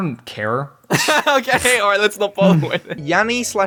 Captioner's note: laughs